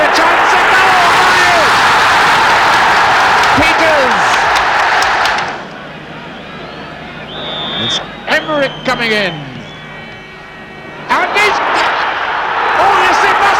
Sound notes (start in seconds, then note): 2.5 crowd roaring; 7.6 whistle blows; 12.2 crowd roar swells